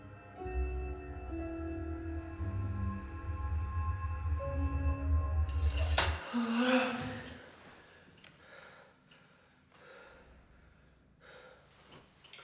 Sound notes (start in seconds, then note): 0.0 high-pitched ringing; 5.6 metal clacks; 6.2 Palle gasps